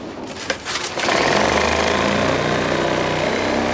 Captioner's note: cutting noise